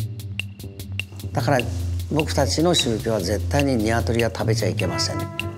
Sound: speaking in Japanese

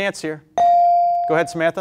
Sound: beep

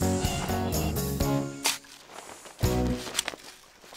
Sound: shovel Scraping

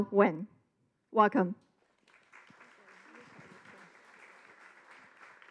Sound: audience applause

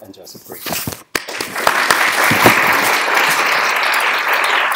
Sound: applause

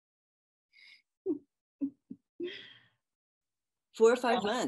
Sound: laughing

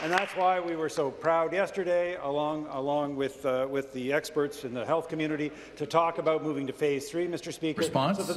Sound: applause

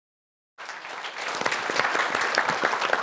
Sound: applause

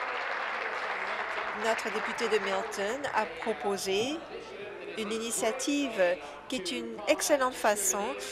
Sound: applause

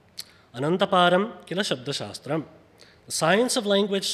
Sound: speaks foreign language

